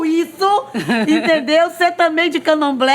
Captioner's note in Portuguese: risos